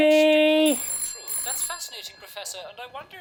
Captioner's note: phone rings